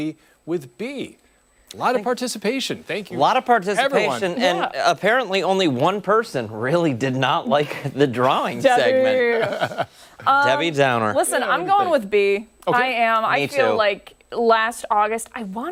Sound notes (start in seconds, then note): 9.1 laughter